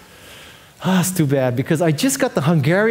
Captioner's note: sighing